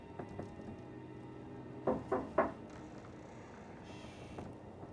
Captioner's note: on frappe doucement à la porte